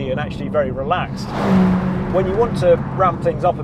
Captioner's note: car zooming